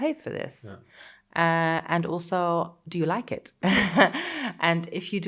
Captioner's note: laughing